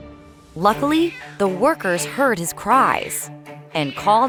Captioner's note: crying